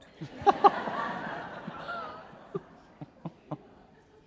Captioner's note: laughing